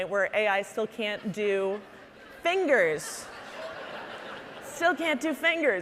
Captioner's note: audience laughing